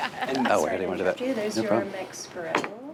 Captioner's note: laughs; group chattering